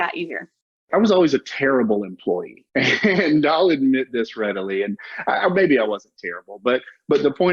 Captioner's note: chuckles